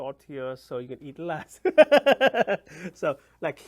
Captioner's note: laughs